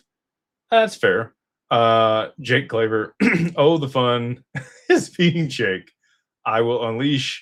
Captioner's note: clears throat